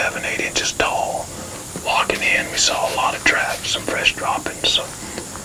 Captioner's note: whispering